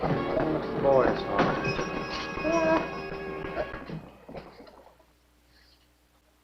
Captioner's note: bell ringing